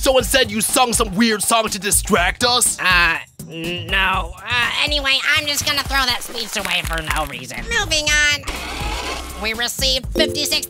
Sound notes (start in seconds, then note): 6.2 machinery noises